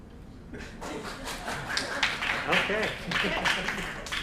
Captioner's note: applause